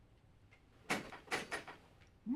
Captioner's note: door clicks shut